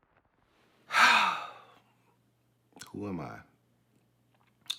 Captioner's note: exhaling